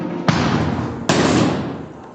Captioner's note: thud